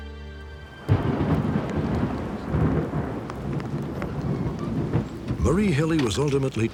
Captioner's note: thunder rumbles